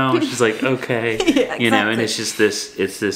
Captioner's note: laughs